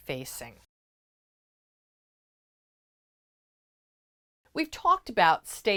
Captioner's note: no Sound Present